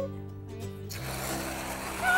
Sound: whipped cream squirting

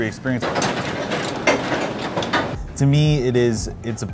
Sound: machine clinking

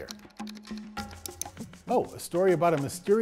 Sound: keyboard keys clacking

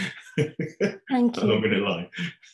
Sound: laughing

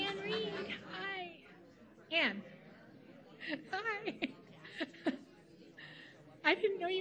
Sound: laughs

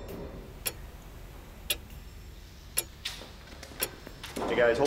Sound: clock ticking

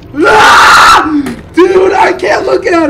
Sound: screams

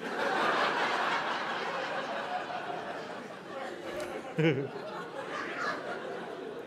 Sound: audience laughing

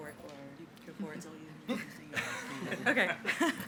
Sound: faintly speaking

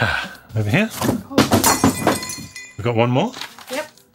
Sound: glass shuttering

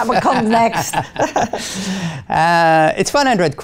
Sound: laughter

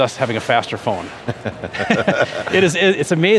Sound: laughter

